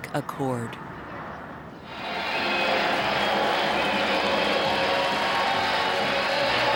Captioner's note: cheering